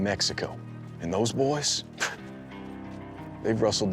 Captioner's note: scoffs